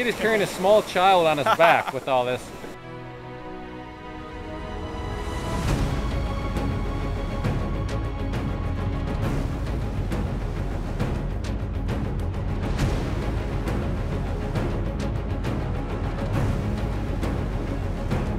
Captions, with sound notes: Keep in mind, Nate is carrying a small child on his back with all this. (laughing) (dramatic music)